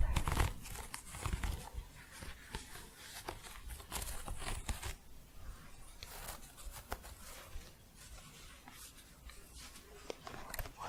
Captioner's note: scratching and shuffling